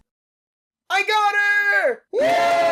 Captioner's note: yelling; crowd cheering